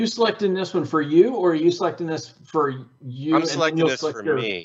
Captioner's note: faintly speaking